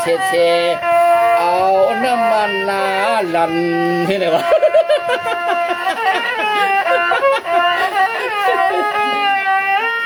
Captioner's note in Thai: เสียงหัวเราะ